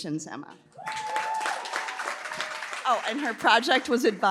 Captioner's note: applause